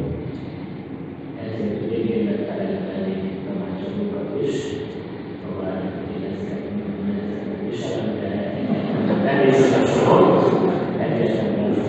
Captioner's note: laughter